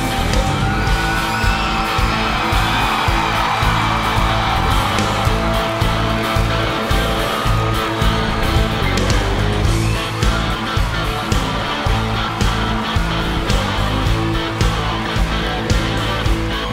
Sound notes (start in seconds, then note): 1.1 audience screaming; 5.0 upbeat music continues